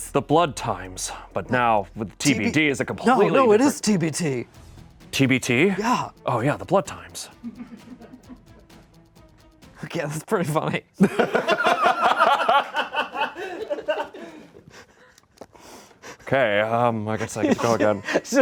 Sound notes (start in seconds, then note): 7.8 crew laughs; 11.0 everyone laughs